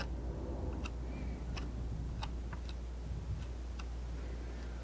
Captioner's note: scratching